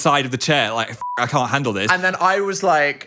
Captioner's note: beep